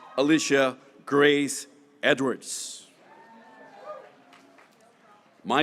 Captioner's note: graduates cheering